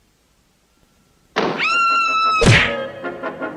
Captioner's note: door Opens & then Closes; Sweet Polly Screams; smack!